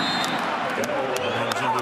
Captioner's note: whistle blows